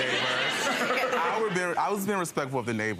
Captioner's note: audience laughing